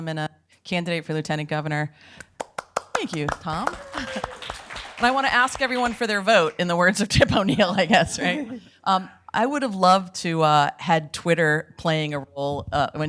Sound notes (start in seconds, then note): 2.2 audience clapping; 3.8 people clapping